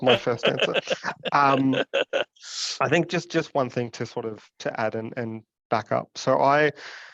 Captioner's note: laughs